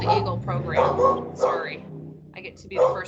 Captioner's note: dog barks